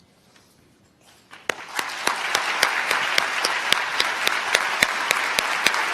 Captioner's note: applause